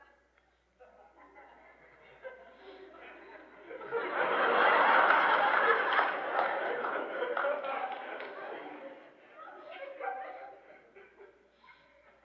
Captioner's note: more loud laughter, applause, laughter